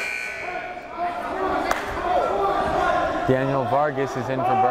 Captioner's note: timer buzzes